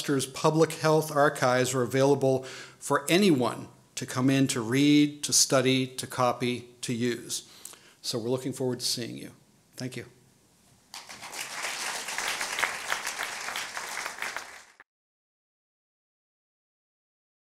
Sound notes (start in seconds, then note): 10.9 applause